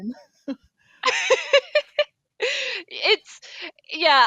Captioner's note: laughter